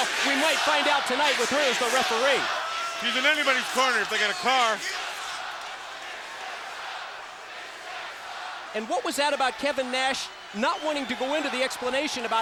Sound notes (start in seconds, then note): 6.1 crowd chants "Michigan sucks"